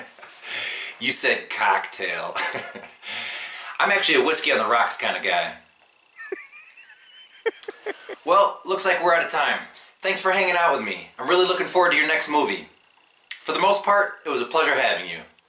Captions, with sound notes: Ha ha, you said "cock-tail". I'm actually a whiskey on the rocks kind of guy (laughing) Well, it looks like we're out of time. Thanks for hanging out with me. I'm really looking forward to your next movie. For the most part, it was a pleasure having you.